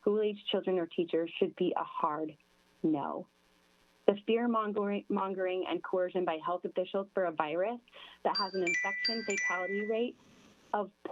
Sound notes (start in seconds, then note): 8.3 chime